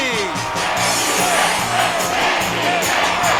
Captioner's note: applause and shouts of joy